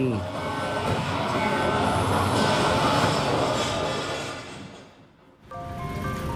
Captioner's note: siren noises; bells and traffic sounds